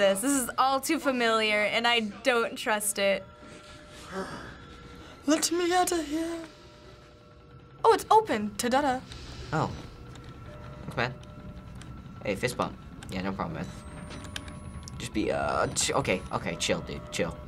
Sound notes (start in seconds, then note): 3.7 pants; 13.7 camera powers up